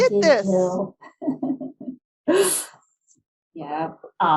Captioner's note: laughs